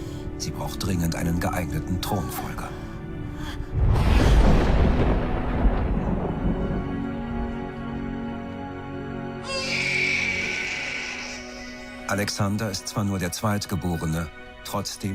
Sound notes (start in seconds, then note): 2.4 Olympias gasps; 9.4 baby crying